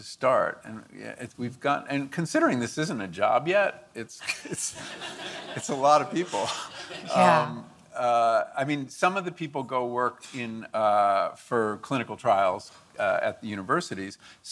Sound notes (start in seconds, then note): 7.4 audience laughing